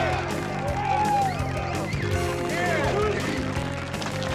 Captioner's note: cheers and applause